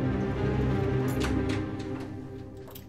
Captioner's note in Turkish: Kapı açılma sesi